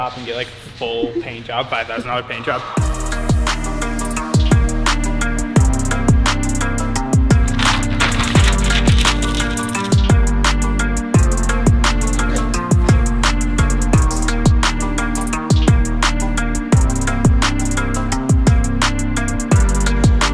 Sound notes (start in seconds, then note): 7.4 brown paper crinkle